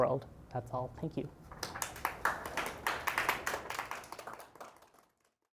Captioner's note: applause